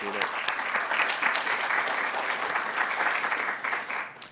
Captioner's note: applause